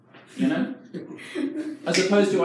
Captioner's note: audience laughs